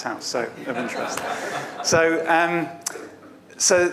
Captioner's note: audience laughs